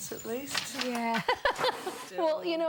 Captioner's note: laughing